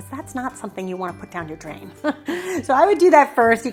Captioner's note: laughs